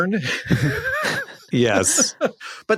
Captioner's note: giggles